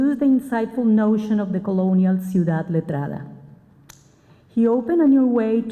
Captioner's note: spanish